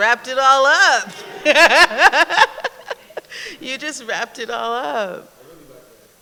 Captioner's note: laughs